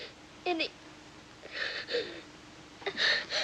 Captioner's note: crying